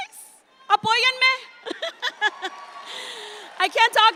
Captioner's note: speaks in Spanish and laughs; audience applauds